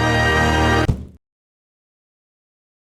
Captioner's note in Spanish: Ruido sordo